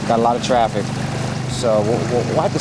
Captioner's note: water gushing